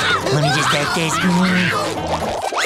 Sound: screaming; chuckles

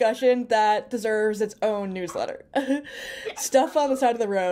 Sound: chuckles

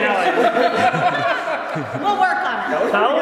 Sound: laughing

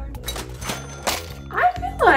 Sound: cash register ringing

